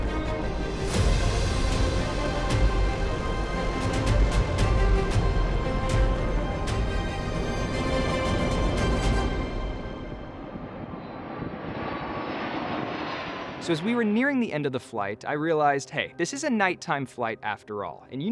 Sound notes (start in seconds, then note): 10.7 plane engines rumbling